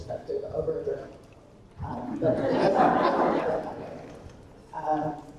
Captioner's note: attendees laughing